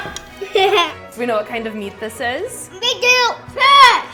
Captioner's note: laughter